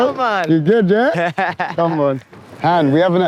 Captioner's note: laughing